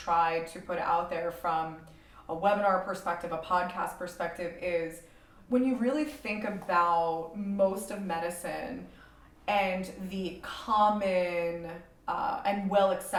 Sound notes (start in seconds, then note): none